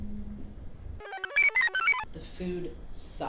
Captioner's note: computer chirps